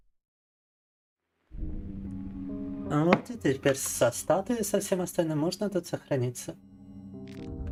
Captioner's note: speaking in foreign language